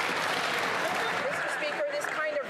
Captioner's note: some Applause